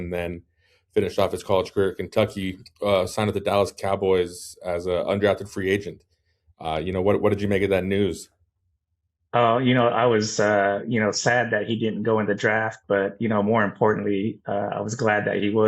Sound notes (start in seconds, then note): none